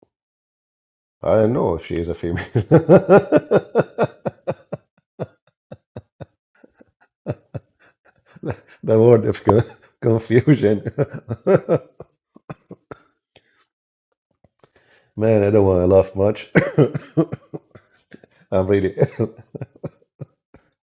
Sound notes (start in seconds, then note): 10.2 Ketawa